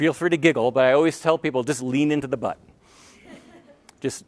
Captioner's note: laughter